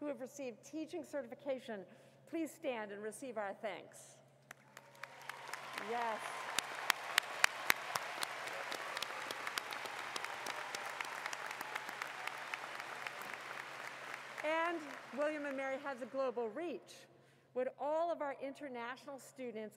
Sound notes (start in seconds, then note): 4.6 cheers and Applause